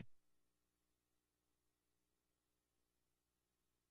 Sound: silence

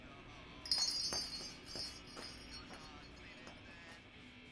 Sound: bells jingling

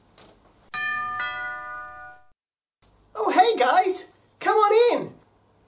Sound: doorbell rings

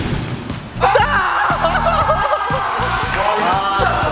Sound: cry

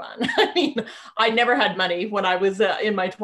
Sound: laughing

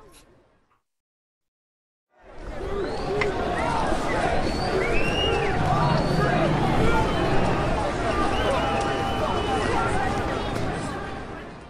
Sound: outside - Jeering crowds, tension

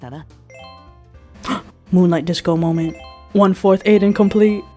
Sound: gasp

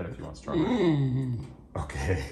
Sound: Oliver whines

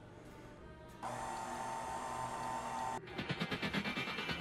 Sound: mixer hums

